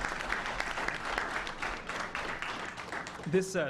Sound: applause

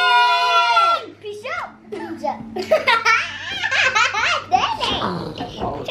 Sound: laughs

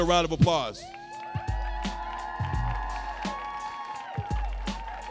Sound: audience cheering

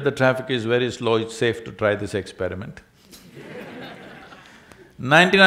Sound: laughter

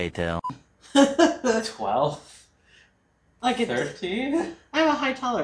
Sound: laughing

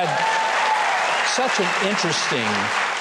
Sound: audience cheers

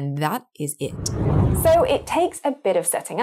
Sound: wind blows

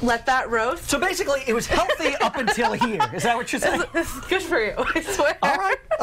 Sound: laughter

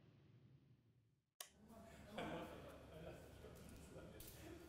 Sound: light switch click, hubbub

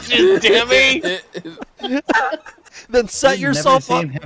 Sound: laughter

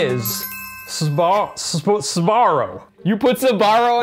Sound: ding

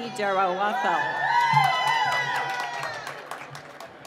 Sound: cheering

